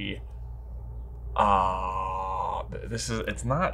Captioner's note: exclaiming